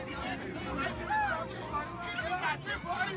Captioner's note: indistinct chatter